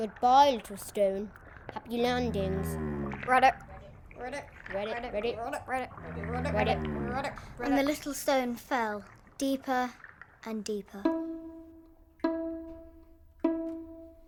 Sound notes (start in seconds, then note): 5.8 frog noises